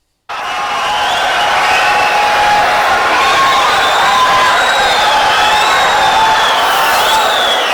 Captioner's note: wild applause and cheering for 22 seconds